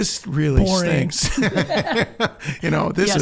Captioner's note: laughing